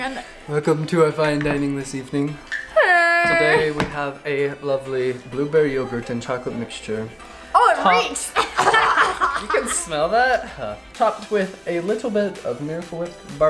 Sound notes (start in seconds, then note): 2.9 wails; 8.3 coughing